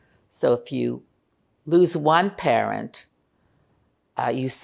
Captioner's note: none